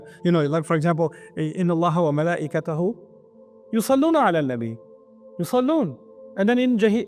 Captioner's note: Arabic